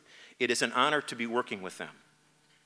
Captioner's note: none